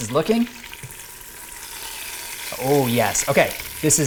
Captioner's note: pot sizzling